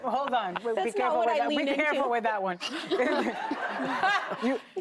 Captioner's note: laughter